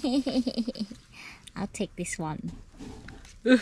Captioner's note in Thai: เสียงหัวเราะ